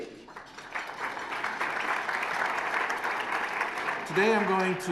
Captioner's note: applause